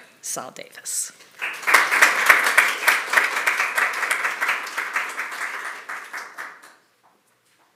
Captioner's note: applause